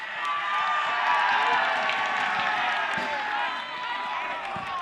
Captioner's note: crowd cheering